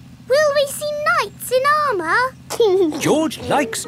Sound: giggling

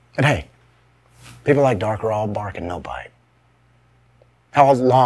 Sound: none

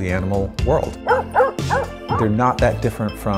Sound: barking

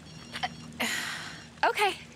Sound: phone rings; sighs

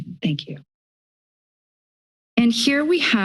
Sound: silence

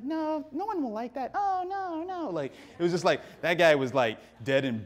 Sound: audience laughing

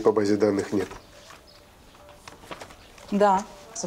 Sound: pages rustling

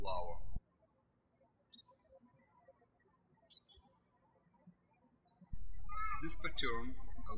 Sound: birds chirping

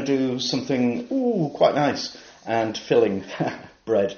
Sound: laughs

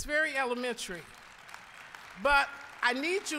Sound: applause

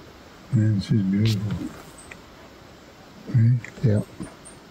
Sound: road noise

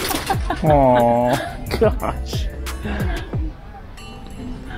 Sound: laughing

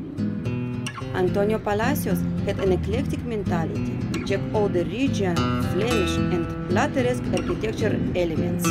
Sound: street Noise

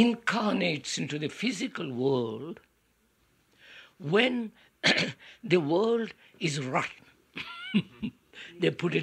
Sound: laughs

